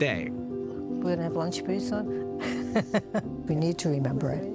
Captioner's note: laughing